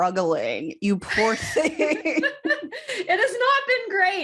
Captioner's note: laughter